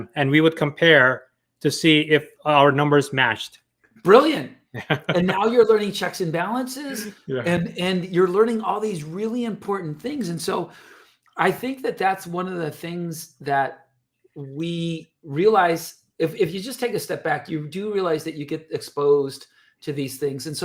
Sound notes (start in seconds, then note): 4.7 chuckles